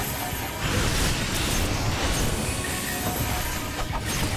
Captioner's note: explosions